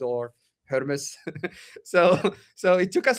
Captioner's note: laughter